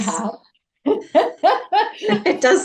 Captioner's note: laughs